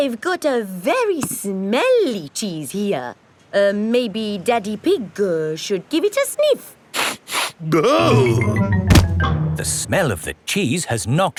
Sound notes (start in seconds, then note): 7.1 sniffs and groans